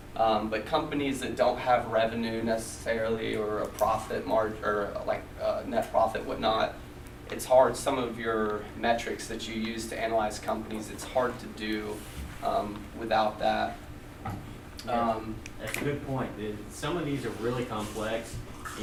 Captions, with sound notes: But companies that don't have revenue, necessarily or a profit margin or like net profit, it's hard. Some of your metrics that you use to analyze companies, it's hard to do without that. - [Voiceover] That's a good point. Some of these are really complex.